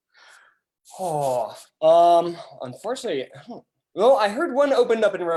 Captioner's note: sighs